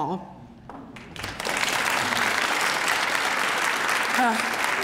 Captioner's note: applause